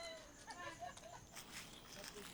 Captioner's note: footsteps on grass